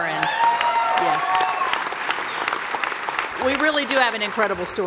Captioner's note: applause